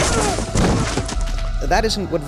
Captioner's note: brains splattering on floor